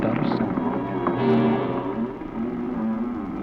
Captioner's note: creaks